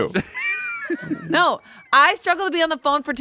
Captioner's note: laughs